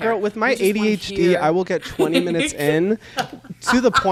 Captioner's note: laughs